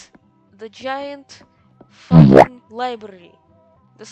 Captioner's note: bwomp